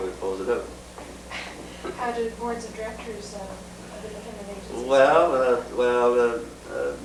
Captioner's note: laughs